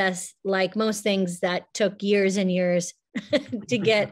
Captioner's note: chuckles; laughs